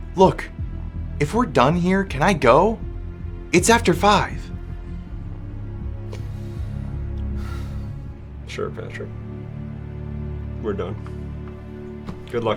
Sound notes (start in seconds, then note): 7.4 Demetrius sighs